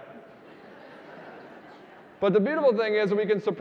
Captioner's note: audience laughing